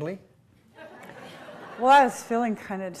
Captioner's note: laughter